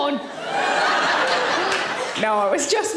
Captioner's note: audience laughing